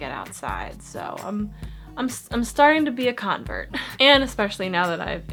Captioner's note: giggles